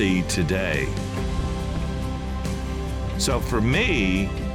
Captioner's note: flags rustling